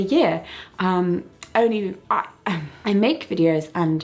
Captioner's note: stumbles over words